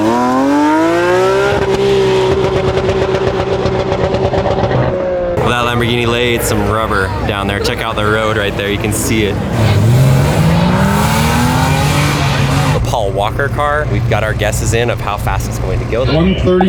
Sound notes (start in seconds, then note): 9.9 car engine roaring